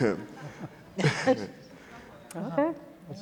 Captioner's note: faintly speaking